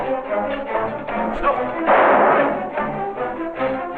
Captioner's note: gunshot